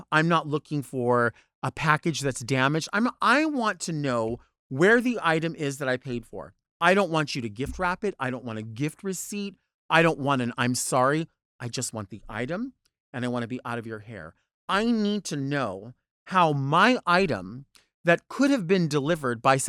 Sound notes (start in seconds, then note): none